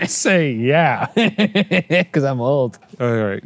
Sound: laughing; laughs

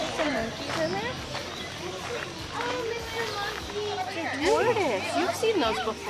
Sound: people chatting indistinctly

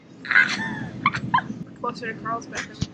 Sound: laughing

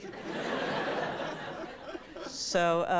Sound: audience laughs

